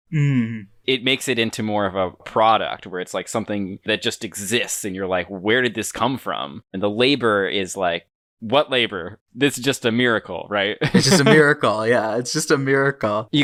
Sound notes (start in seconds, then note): 10.9 laughs